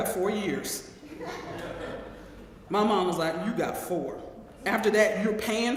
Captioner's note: laugh